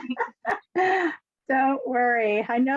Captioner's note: laughs